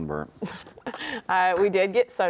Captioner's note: chuckles